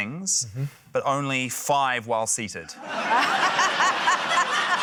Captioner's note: laughter